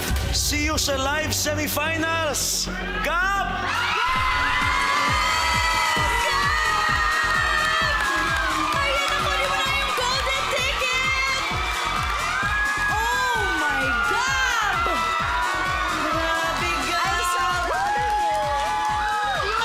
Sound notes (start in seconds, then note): 3.7 screaming; 4.0 cheering